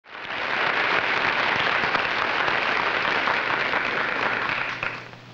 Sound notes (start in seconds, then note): 0.0 audience applauding